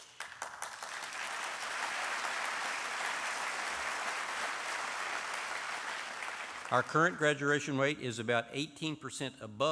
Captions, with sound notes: OF COMPARABLE INSTITUTIONS NATIONALLY. [ APPLAUSE ] OUR CURRENT GRADUATION RATE IS ABOUT 18 PERCENT